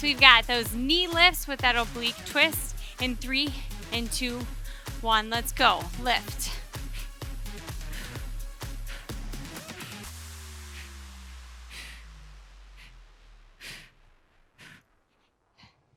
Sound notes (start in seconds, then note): 6.2 breathing deeply; 6.8 upbeat music continues